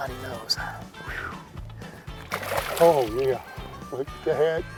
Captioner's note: water splashes